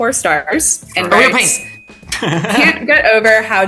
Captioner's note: bell chimes